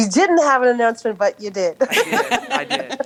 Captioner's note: laughter